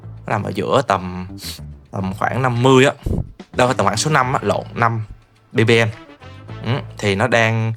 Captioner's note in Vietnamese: khịt mũi